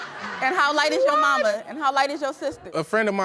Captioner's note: audience laughing